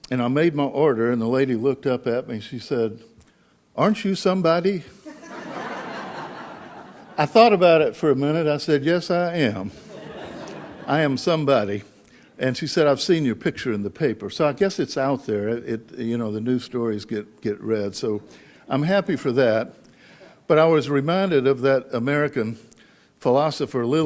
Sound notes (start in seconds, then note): 5.1 audience laughs